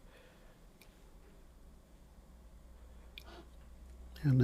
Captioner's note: silence